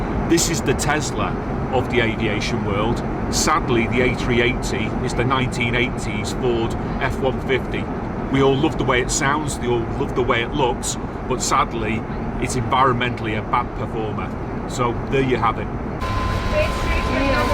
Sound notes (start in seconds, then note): none